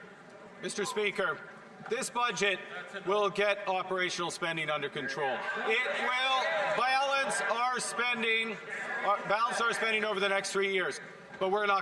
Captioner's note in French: voix de l'interprète